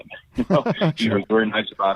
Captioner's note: laughs